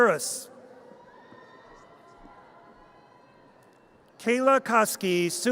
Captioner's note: audience cheers